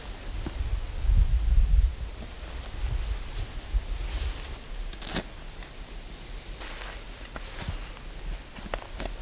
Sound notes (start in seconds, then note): 0.8 wind whooshing; 5.3 shovel grating